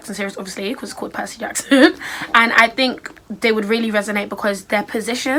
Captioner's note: laughs